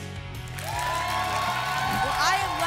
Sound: applause and cheering

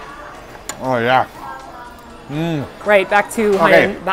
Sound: chewing

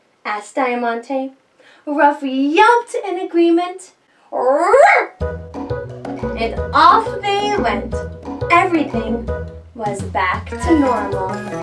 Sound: yelp!

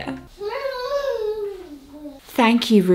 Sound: coos

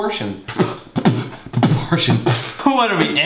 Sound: overly accentuates; makes a pronounced P sound

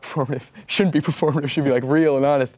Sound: laughs

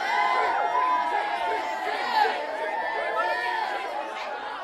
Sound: crowd cheering

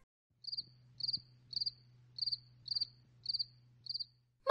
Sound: crickets

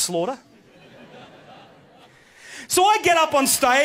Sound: audience laughs

